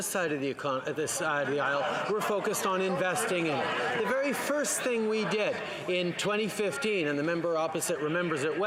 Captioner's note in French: voix de l'interprète